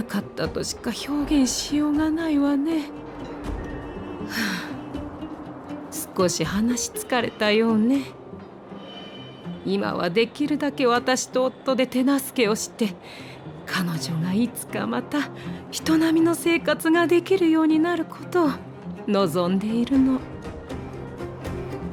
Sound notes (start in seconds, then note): 4.3 sigh